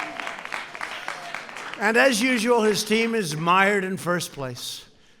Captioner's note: applause